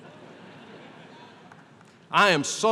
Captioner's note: laughter